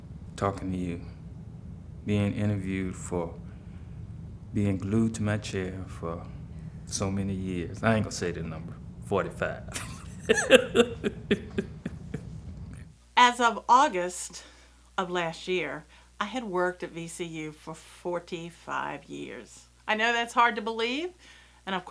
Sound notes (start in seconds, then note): 9.0 laughs